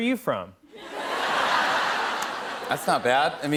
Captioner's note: laughter